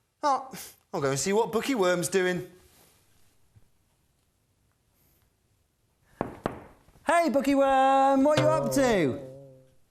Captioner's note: knocks on the door